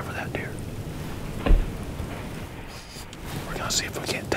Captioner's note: whispering